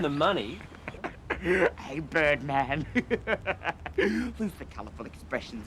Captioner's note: laughs